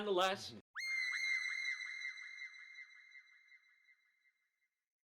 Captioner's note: high-pitched screaming tone